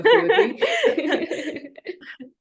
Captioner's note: laughter